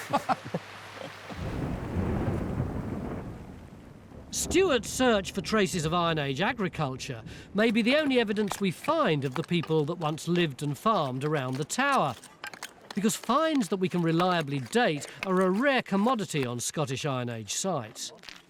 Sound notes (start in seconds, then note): 0.0 laughs; 1.4 rolling thunder